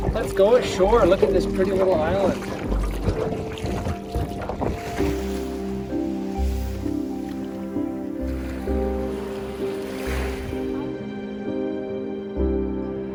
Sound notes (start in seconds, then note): 3.0 oar splashing; 5.3 peaceful music